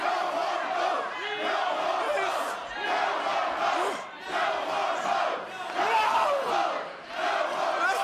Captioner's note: fans chanting